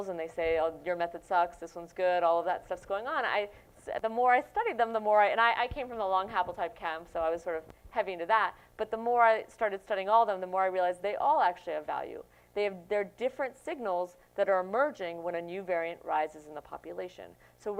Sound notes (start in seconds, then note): none